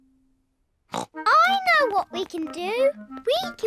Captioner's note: snorts